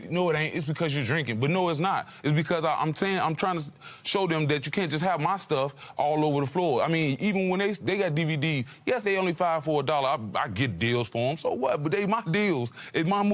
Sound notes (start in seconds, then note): none